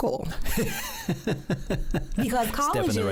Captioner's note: both laugh